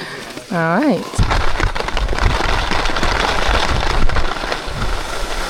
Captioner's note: skis scrape